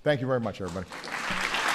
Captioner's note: applause